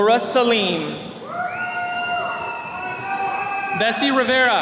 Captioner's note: attendees cheering